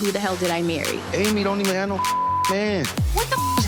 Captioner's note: beep